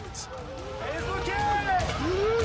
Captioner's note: crowd shouting